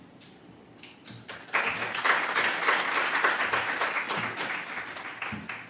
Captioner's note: applause